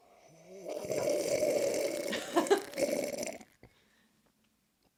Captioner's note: prolonged slurp